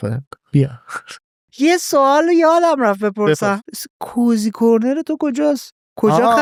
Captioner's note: laughs